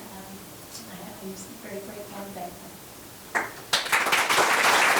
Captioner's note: members applauding